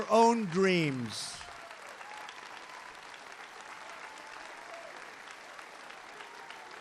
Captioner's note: applause